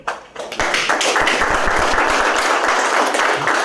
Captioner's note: applause